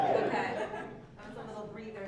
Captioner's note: laugh